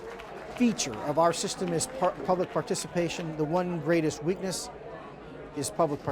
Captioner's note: applause